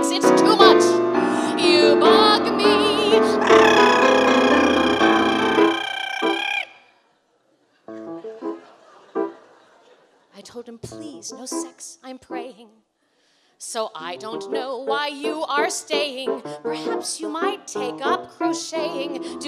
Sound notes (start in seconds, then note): 2.6 making loud trill noise; 7.0 laughter